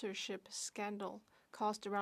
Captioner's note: speaking French